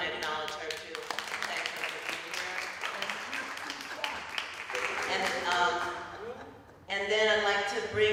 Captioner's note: applause